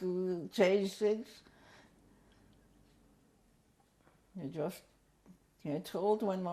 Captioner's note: pauses for 3 seconds